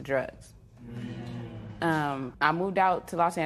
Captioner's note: spectators murmur